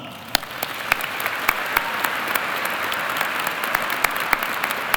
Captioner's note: audience applauding